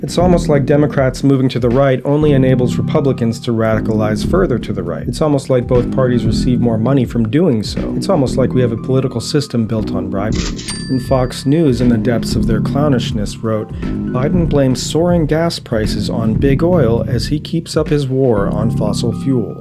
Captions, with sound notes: It’s almost like Democrats moving to the right only enables the Republicans to radicalize further to the right. It’s almost like both parties receive more money from donors from doing so. It’s almost like we have a political system built on bribery [cash register sound] And FOX NEWS in the depths of their clownishness wrote: “Biden blames soaring gas prices on Big Oil as he keeps up his war on fossil fuels”.